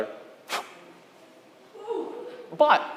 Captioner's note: air blowing